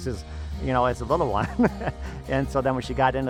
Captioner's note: laughs